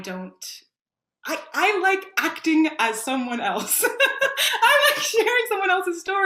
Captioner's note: laughs